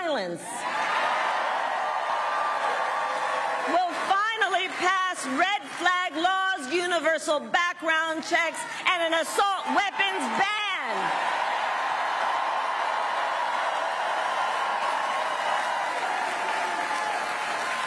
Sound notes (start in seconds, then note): 0.0 applause; 9.4 applause; 17.3 cheering and applause